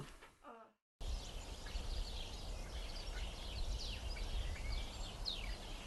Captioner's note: birds chirping